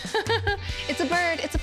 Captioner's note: laughs